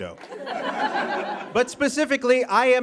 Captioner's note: audience laughs